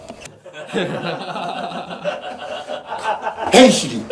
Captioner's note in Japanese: 笑い